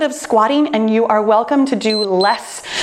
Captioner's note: timer beeps